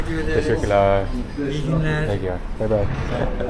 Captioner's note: speaking Turkish